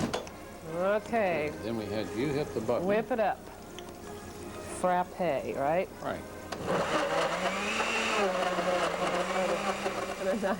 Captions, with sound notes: --Okay. --Then we have you hit the button. --Whip it up. Frappe. Alright? --Right. [blender whirring]